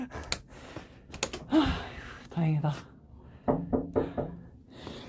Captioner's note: knocks